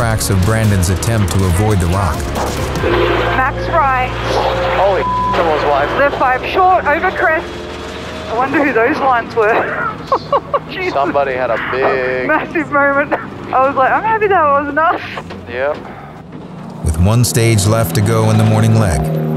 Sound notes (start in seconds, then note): 4.5 beep; 10.1 laughing